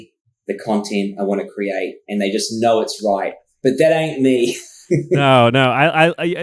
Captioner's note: laughs